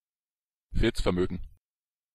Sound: fast Pronunciation

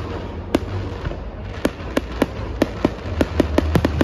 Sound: sound of tuition fees exploding

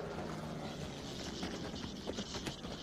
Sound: airplane whirring

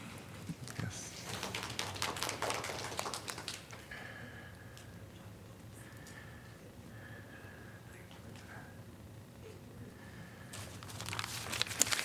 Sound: applause

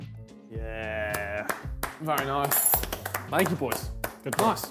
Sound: clapping

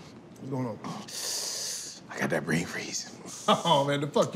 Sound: sucks in

